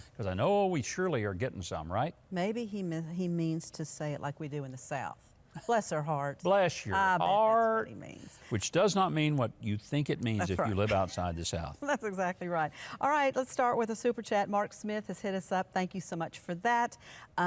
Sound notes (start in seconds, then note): 5.7 host laughs; 10.4 woman laughs; 12.0 laughs